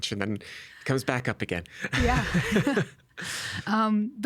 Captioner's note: chuckling